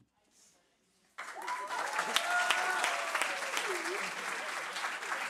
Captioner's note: cheers, applause